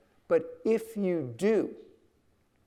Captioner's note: none